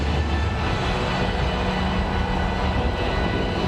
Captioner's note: thunder roars